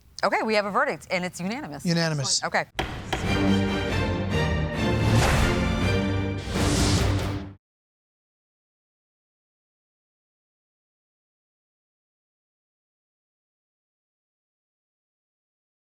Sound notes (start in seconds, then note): 2.8 gavel bangs twice; 2.8 theme music